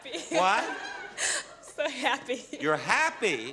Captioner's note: sobs